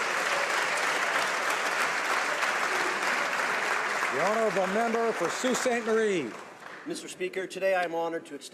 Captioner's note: applause